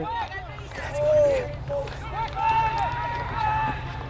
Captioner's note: players shouting